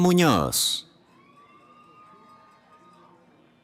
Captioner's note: cheering